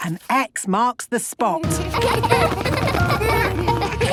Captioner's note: laughter